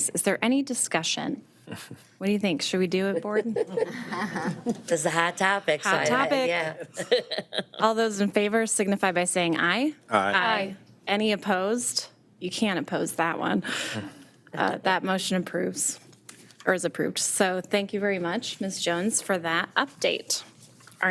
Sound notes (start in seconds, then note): 1.7 attendee chuckles; 3.2 board members laughing; 6.3 laughs